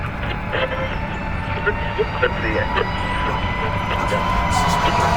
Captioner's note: radio static; sirens wailing; intense music